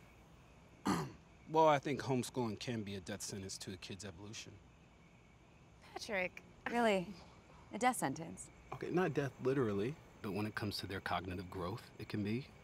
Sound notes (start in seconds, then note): 0.8 Patrick clears throat